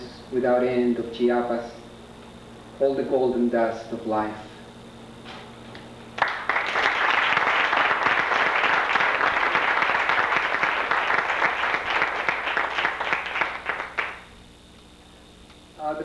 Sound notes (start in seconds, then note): 6.1 applause